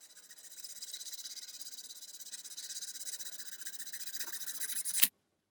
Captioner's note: sawing sound